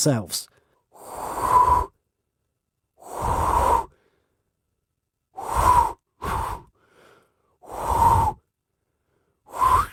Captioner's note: blowing